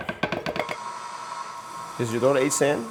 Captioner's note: mixer whirls